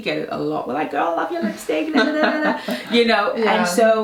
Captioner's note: gabbling